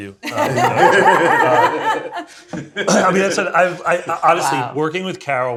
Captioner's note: everyone laughs